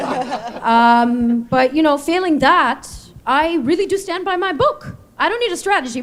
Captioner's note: laughter